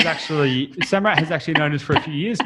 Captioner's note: laughs